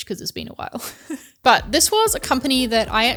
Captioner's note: laughs